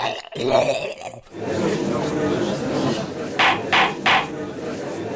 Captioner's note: gallery chattering